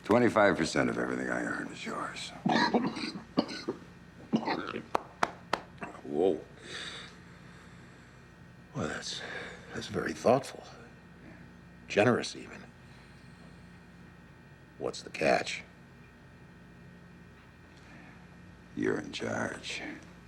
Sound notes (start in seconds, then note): 2.4 Lenny coughing; 4.8 hand slapping